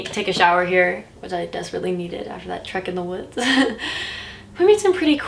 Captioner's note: laughs